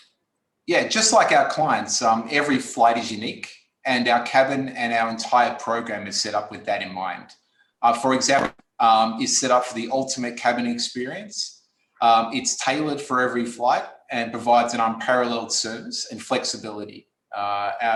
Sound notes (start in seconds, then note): 8.4 distortion